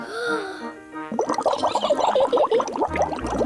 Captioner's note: takes big breath; giggles